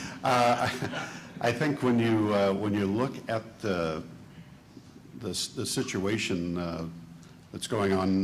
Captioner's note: chuckles